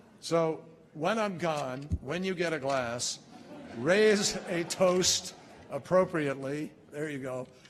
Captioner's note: laughter